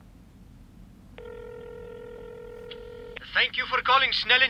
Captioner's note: phone; phone rings